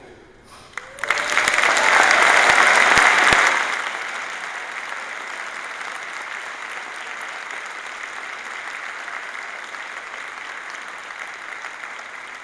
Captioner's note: applause